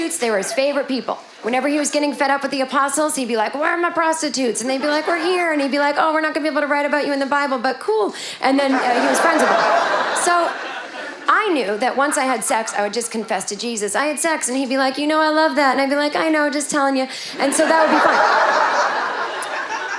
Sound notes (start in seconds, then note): 8.6 audience laughing; 17.3 audience laughing